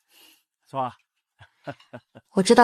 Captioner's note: laughs